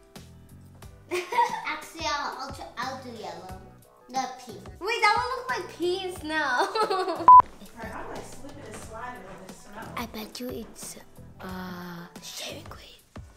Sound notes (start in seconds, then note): 6.5 laughs